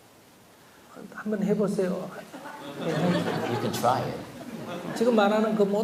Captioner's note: audience Laughter